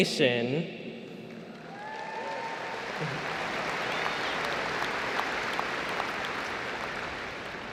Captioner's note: applause